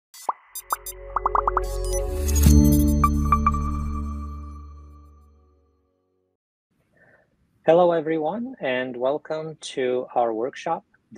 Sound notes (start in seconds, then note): 1.1 bubbles popping; 2.6 dynamic music